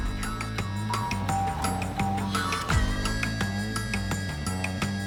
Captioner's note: number animation beeping